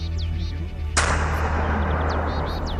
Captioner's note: gunshot